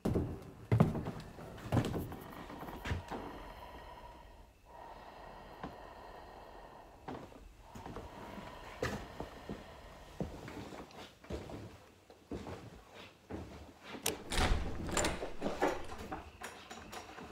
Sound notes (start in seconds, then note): 2.4 floor creaking; 4.8 masked man breathing heavily; 10.0 heavy footsteps; 14.1 door rattling